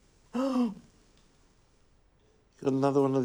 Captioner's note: gasps